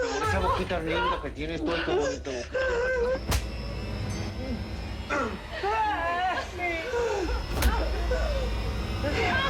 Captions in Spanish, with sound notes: - CON ESA BOQUITA LINDA QUE TIENES... [Golpes] [Gritos]